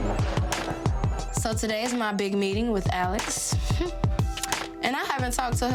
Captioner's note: scoffs